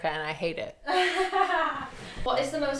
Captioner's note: laughs